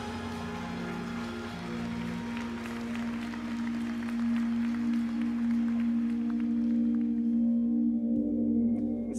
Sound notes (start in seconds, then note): 0.0 applause; 5.4 spherical music